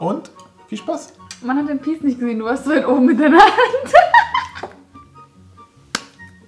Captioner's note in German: lacht